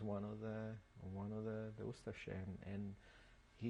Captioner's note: non-english